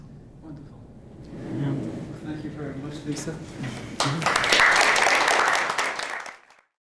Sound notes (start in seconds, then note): 4.0 applause